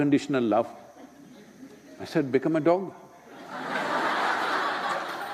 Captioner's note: laughter